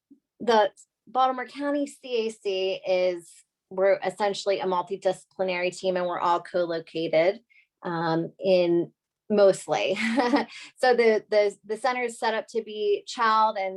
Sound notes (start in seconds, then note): 9.9 laughter